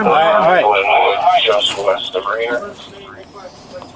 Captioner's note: radio chatter